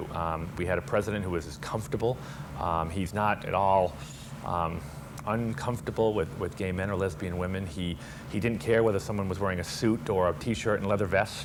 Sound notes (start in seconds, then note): none